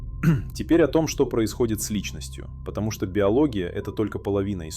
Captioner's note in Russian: откашливается